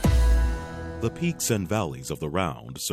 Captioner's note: voiceover